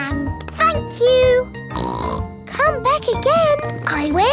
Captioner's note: snorts